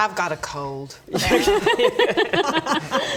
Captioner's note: laughs